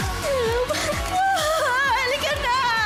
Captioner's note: sobs